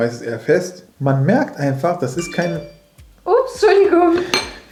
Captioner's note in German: Handy Benachrichtigungston läutet